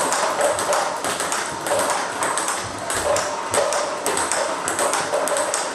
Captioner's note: ball ping pong hitting continues